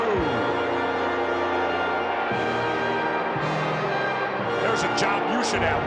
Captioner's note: crowd boos; regal music plays